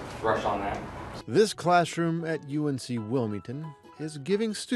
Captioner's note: voiceover